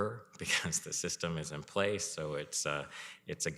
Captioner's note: chuckles